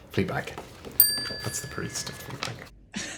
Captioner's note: bell chimes